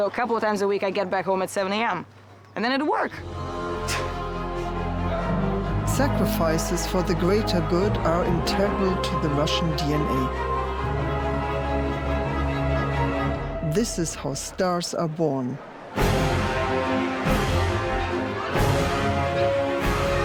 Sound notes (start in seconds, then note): 4.0 laughs; 5.1 whimsical music; 15.7 whimsical music intensifies